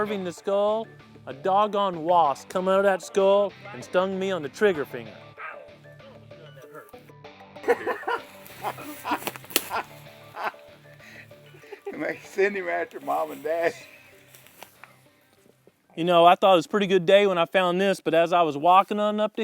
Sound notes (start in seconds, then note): 14.7 laughing